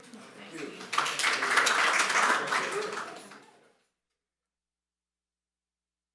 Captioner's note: applause